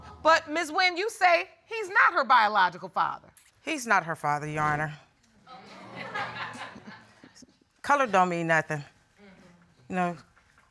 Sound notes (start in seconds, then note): 5.5 audience laughs